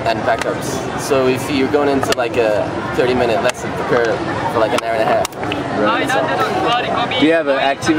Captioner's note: laughing